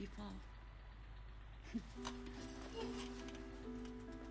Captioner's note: laughs